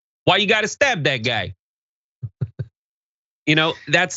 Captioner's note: laugh